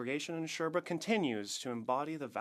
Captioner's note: speaking French